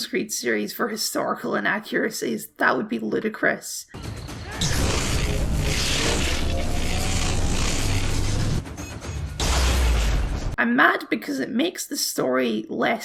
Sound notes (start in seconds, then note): 4.6 magic Apple Laser Noises